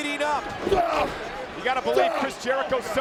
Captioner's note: wrestlers grunting